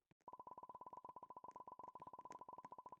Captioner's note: popping Continues